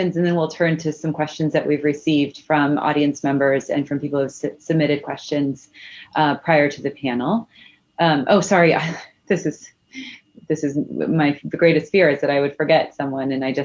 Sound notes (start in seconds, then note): 9.2 laughs